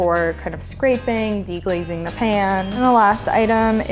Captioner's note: ding